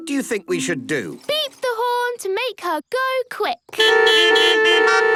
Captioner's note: beeping